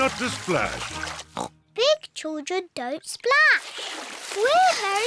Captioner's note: laughs; oinks